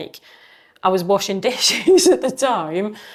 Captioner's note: laughing